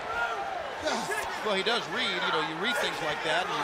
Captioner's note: crowd chatter